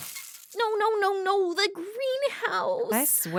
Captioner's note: sound of snort and smashed glass